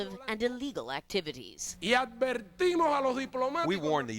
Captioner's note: speaking Spanish